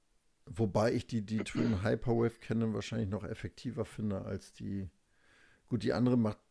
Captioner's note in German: räuspern